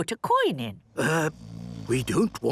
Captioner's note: people snoring